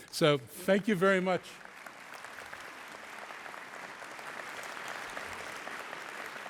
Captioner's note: applause